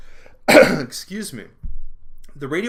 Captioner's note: coughing